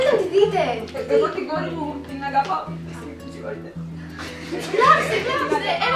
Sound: snif snif

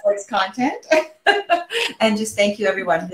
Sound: laughs

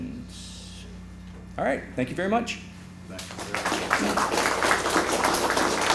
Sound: applause

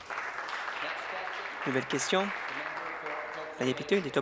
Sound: voice trailing; applause

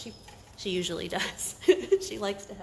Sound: laughs

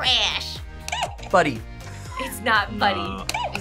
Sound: buzzer squeaks

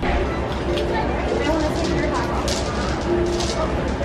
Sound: crowd chattering

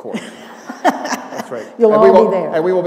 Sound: laughter

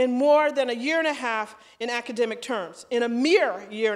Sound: none

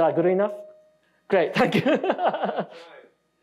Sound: laughing

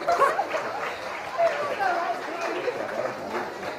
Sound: cheering and applause

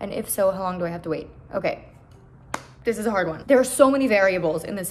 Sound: clap

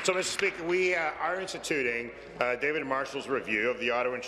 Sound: applause

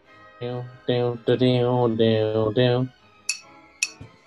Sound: hums opening; horne taps bottle

